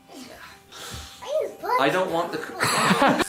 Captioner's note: child murmuring; laughing